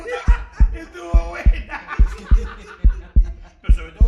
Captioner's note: stronger and noisier heartbeat